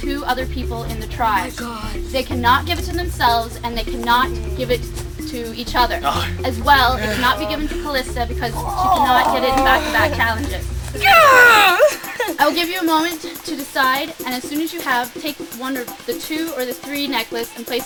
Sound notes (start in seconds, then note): 8.4 Calista makes a frustrated noise